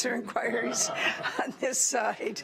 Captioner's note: laughs